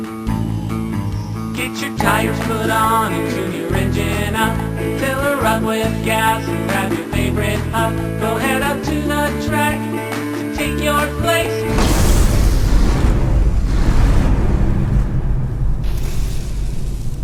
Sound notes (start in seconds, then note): 11.6 electric arc